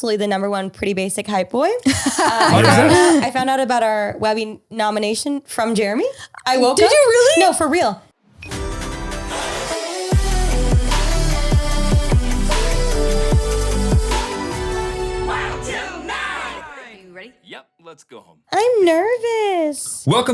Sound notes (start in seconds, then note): 1.8 girl laughing; 9.0 upbeat digital music